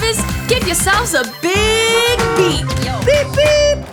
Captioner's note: bus horn honking